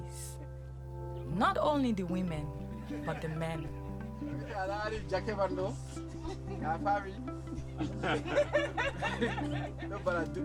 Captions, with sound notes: Not only the women, but the men. [SPEAKING IN LOCAL LANGUAGE] [SOFT LAUGHTER] [LAUGHTER] [SPEAKING IN LOCAL LANGUAGE]